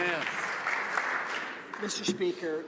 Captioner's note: some Applause